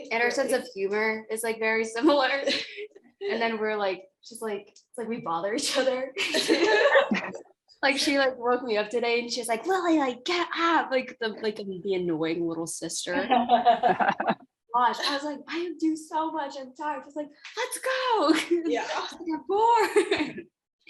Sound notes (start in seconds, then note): 6.1 laughter; 13.2 laughter; 19.8 laughter